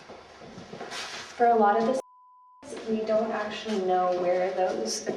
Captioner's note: beeping